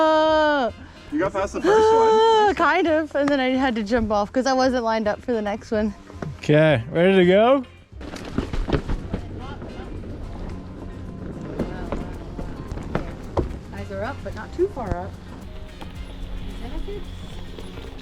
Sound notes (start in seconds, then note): 0.1 shouting; 8.4 wheels whooshing; 15.4 gentle music; 17.8 wheels screeching